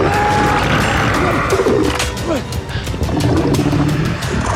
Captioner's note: screams; crab bellowing